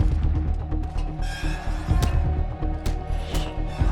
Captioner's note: metal creaks